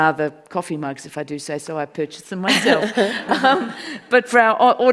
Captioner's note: audience laughs